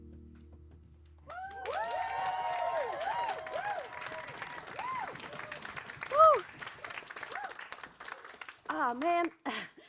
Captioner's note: applause as the music stops